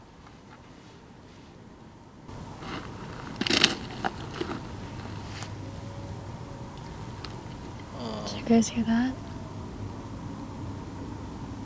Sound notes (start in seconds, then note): 3.9 gravel crunching; 5.2 coyote howling